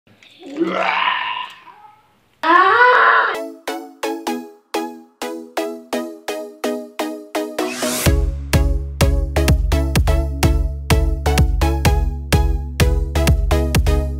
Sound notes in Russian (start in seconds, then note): 0.4 аааа